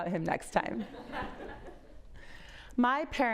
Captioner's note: audience laughs